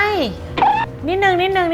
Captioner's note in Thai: เสียงเอฟเฟกต์